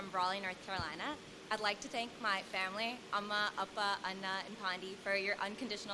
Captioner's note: non-english speech